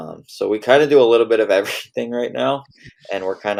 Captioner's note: laughs